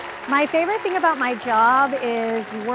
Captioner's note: applause